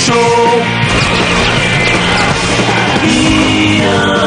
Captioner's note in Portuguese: Gun Shooting